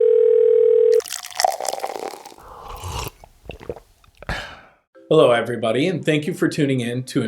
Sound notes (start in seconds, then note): 0.0 phone ringing; 0.9 coffee splashing; 2.6 drinker sipping and exhaling